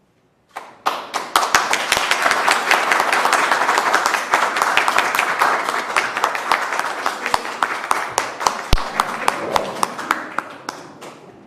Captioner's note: applause